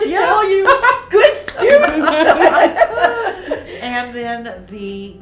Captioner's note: laughing